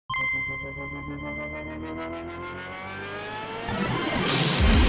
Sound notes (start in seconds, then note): 0.1 video game chimes; 0.1 upbeat music rises; 4.6 upbeat music